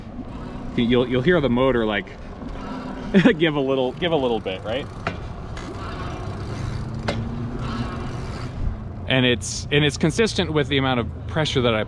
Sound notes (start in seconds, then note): 6.2 chain catling; 6.2 motor whooshing